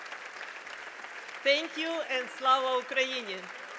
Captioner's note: attendees applauding; speaking in foreign language